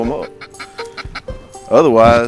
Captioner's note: quacking